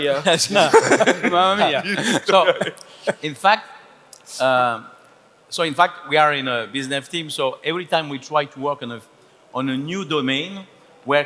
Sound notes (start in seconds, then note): 0.1 laughs; 1.5 speaking foreign language